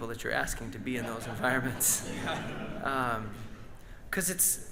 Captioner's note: audience laughs